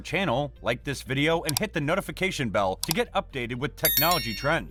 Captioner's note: with a bell sound